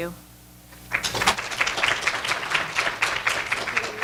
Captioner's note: applause